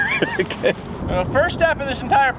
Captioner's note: laughs